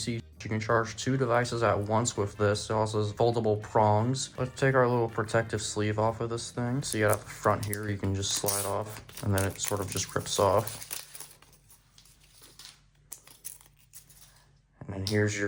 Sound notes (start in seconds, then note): 10.9 plastic wrapper noise